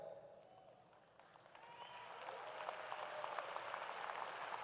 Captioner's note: audience applauds